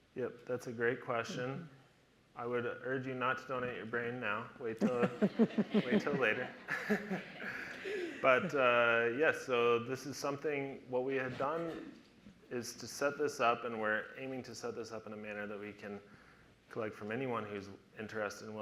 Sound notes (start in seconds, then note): 4.8 audience laughter